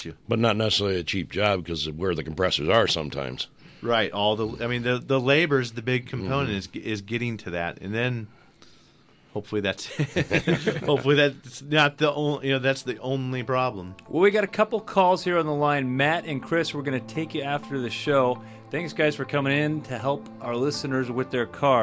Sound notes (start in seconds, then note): 9.9 group laughs